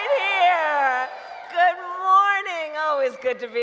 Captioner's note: applause